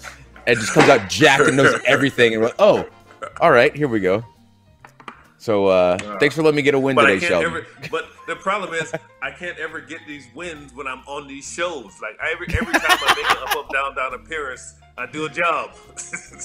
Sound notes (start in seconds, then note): 12.5 laugh